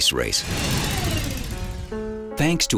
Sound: whirring

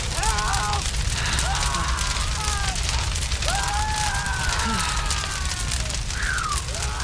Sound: pain/terror screams; more screams

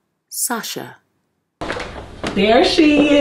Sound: door opens

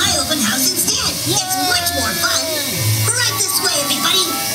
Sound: dad cheering

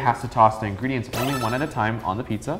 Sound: beep

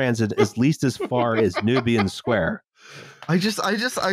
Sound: laughs

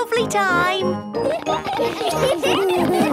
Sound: laughter

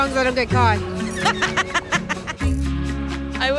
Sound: laughter

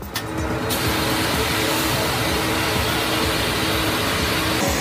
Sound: machine blasting

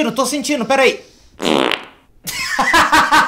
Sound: fart sound

